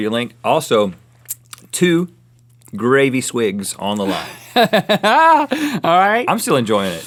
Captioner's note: laughs